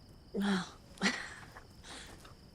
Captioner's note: chuckles